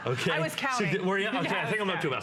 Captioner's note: laughter